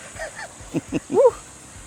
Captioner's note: chuckles